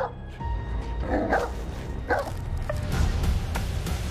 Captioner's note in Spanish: Ladridos